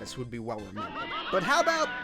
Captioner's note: Mario 64 shrieks in ethereal pain